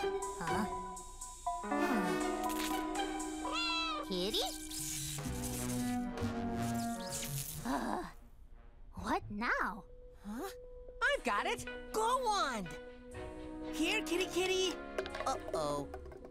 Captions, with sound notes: Huh? Hmm... (meowing) Kitty? (light zapping) Ugh! What now? - Huh? I've got it! Glow wand! Here, kitty, kitty! Uh-oh...